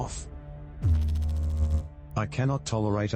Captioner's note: electrical noise